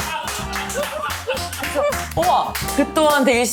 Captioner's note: laughing; giggling